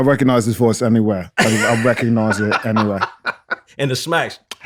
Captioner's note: laughter